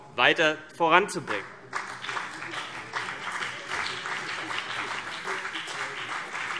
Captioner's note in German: Beifall BÜNDNIS 90/DIE GRÜNEN und vereinzelt CDU